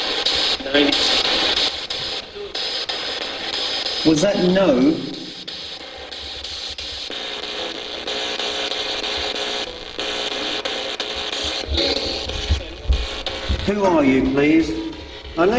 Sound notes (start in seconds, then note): 0.1 static buzzing; 6.0 static buzzing